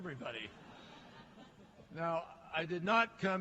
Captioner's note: laughter